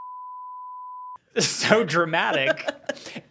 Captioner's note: beep